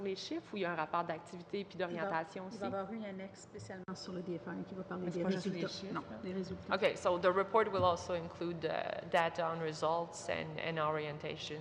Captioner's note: speaking French